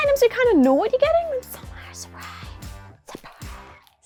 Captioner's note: whisper